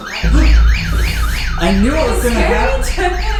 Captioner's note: fire alarm